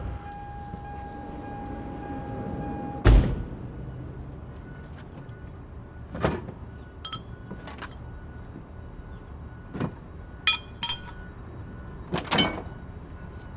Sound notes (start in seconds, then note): 3.0 car door slams; 7.0 objects rattling; 10.4 objects rattling